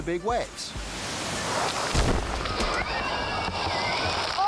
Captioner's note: wave exploding